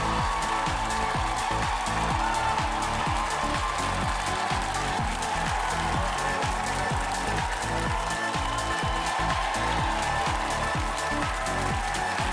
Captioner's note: cheers and applause